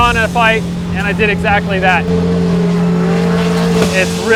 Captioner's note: engines roaring